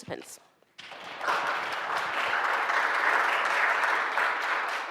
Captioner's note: audience applauds